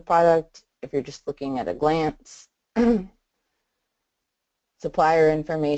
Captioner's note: clears throat